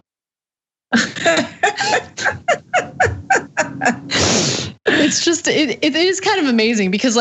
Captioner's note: laugh